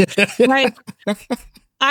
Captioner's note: laughing